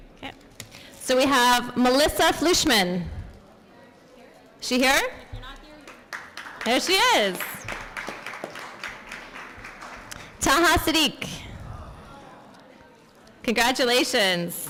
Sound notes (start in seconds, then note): 5.7 applause